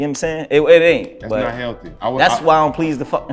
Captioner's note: laughing